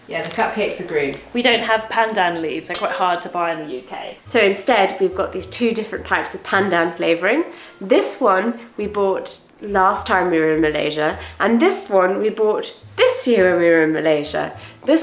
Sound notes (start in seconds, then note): 2.9 guitar string breaking sound effect